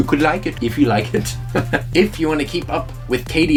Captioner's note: chuckles